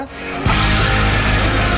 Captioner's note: upbeat music; tires whirring